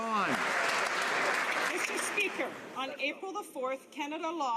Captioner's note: some Applause